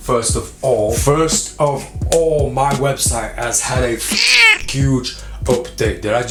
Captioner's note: cat screech